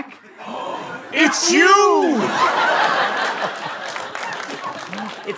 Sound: gasps

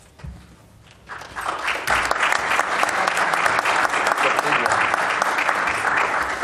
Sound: applause

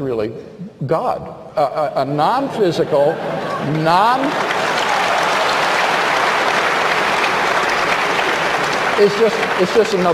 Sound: audience aplause

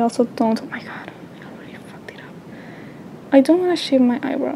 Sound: whispers

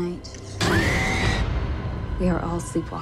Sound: screams

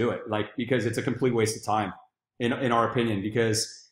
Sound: none

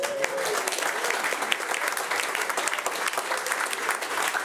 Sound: audience applauding

